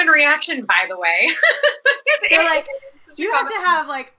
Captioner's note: laughing